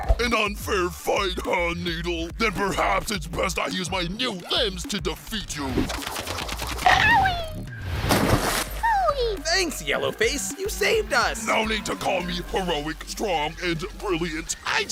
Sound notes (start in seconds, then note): 5.9 bite